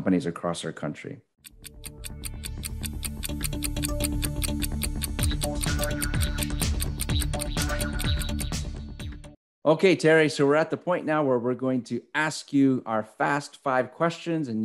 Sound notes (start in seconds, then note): 1.4 clock ticking; 3.1 bouncy upbeat music